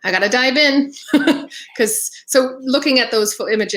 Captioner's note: laughing